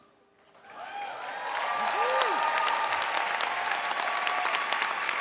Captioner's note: audience cheering and clapping